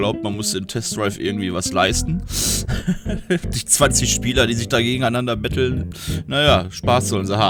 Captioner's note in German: gelächter